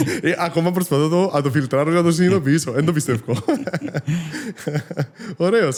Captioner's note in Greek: γέλιο